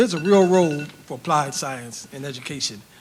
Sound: timer beeps

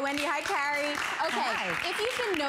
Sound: applause

